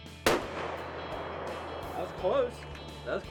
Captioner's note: gun shot